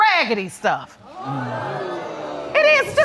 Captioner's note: audience murmuring